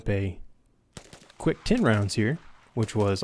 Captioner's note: gunshots firing